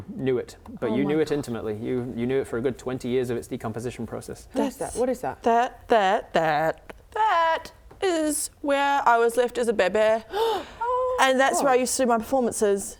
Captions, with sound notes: knew it, but you knew it intimately You knew it for a good 20 years of its decomposition process What is that? That, that, that, that is where I was left as a baby *gasp* Oh! And that's where I used to do my performances